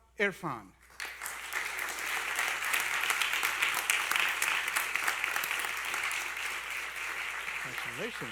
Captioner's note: applause